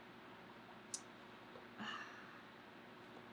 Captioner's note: sighs